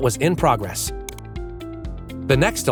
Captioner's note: mouse clicking; bright synth music